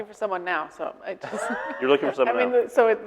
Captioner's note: laughing